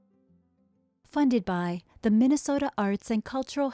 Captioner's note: soft guitar music; voiceover